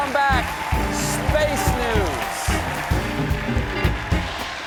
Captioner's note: applause